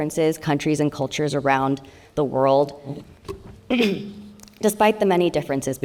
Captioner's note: clears throat